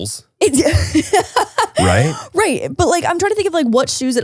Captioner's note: laughs